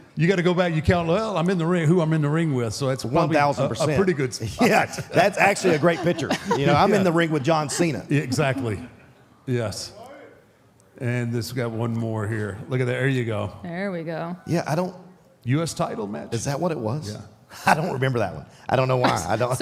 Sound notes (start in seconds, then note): 19.0 chuckles